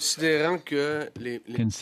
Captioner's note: speaking French